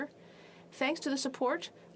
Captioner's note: speaking French